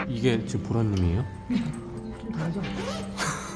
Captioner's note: laughs